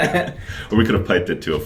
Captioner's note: laughter